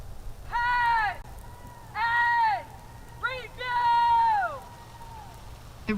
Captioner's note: shouted commands